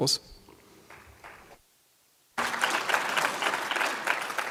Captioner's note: applause